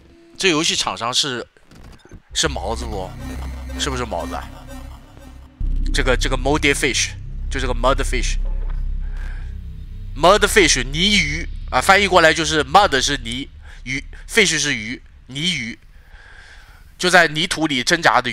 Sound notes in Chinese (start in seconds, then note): 6.4 泣不成声